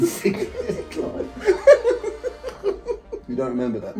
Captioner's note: both laughing